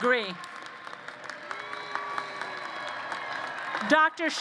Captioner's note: applause